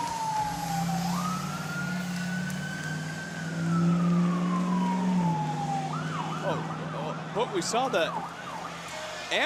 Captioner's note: sirens